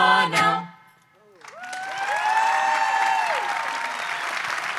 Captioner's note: audience cheers